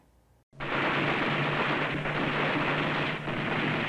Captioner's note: guns firing